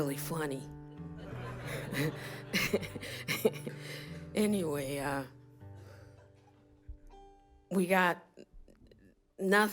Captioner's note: laughter